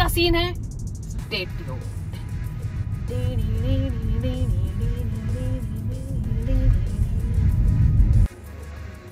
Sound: hums music

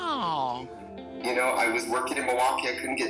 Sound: voiceover

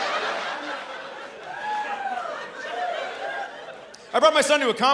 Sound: laughter and catcalls

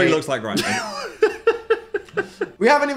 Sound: Dan laughs

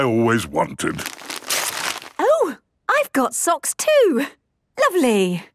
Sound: tearing

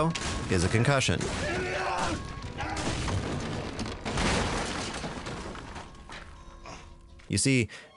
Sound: jeff yelling and crashing

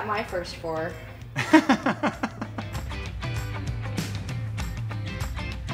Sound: laughing

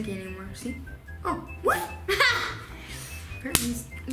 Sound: yelling

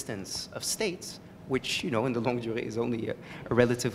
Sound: french

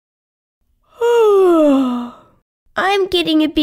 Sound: yawn

